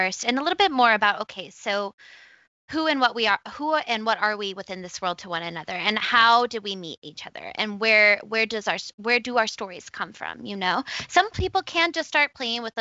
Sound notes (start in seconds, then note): none